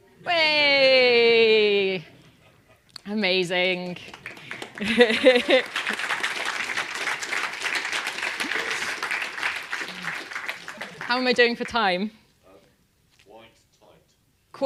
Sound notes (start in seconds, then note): 3.9 applause